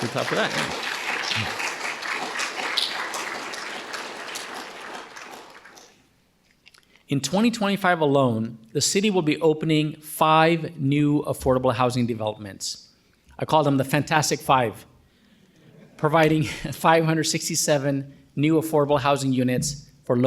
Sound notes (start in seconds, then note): 0.0 audience applauding